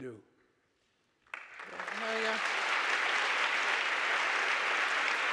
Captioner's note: audience applauding